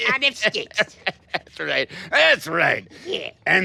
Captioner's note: laughs